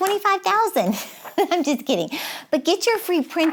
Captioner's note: giggles